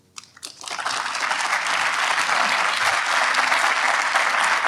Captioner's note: audience applauds